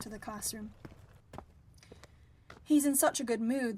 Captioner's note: footsteps, bubbling fades